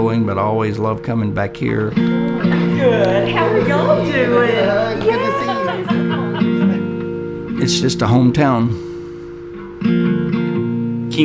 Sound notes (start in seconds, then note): 6.9 laughing; 9.9 slow banjo music